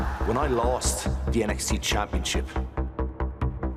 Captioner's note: crowd cheering